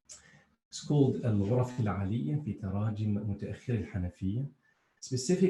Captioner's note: speaking in foreign language